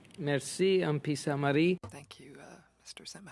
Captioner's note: speaking french